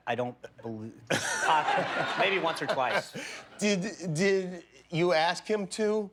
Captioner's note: laughter